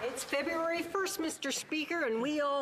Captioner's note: some Applause